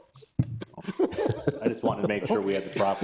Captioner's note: all laughing